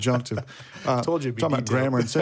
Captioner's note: laughs